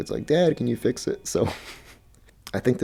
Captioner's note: laughs